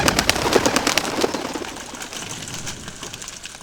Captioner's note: motorbike approaching